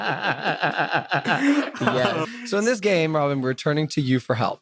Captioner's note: laugh